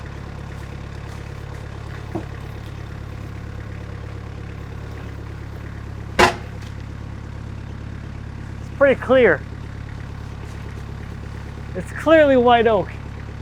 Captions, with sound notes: (wood thunking) It is pretty clear. It's clearly white oak.